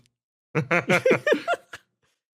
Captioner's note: laughs